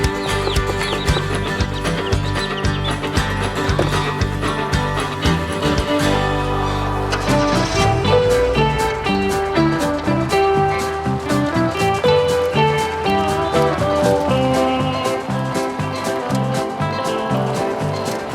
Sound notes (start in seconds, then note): 0.0 birds; 1.7 ringtones; 3.5 birds